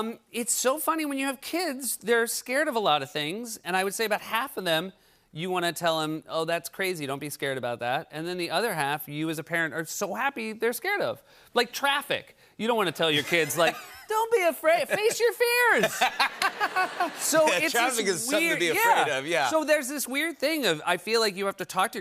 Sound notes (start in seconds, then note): 15.7 laughter